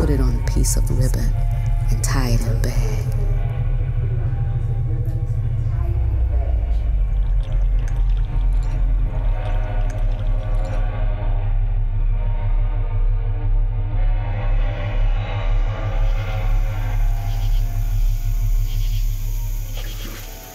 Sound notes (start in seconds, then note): 3.4 low hum